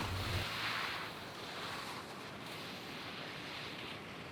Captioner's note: skis scraping